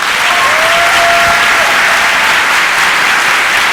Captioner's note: applause